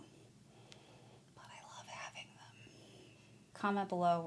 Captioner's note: WHISPERING: But I love having them